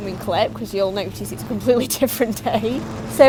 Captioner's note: laughs